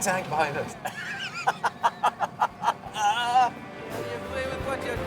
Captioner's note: both laughing